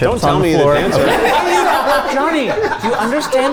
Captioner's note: all laughing